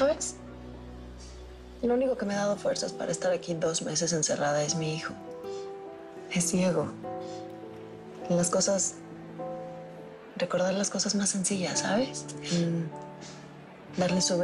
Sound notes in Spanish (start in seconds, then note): none